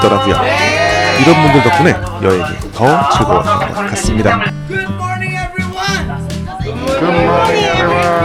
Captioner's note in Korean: 비명